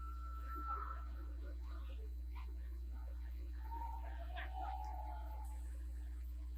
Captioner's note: scattered audience hooting and hollering